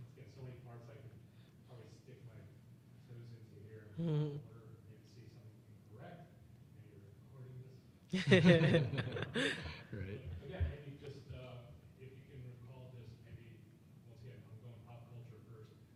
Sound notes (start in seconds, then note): 3.8 chuckling; 8.1 panelists laughing